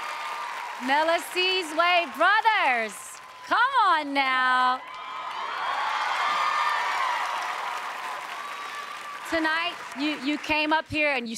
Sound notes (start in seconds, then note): 4.6 audience cheers